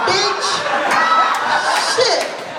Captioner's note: laughter and applause